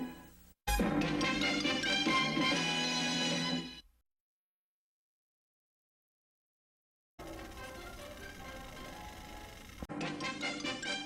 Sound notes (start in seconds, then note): 4.1 silence; 7.3 retro music resuming